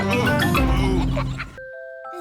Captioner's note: daddy pig groans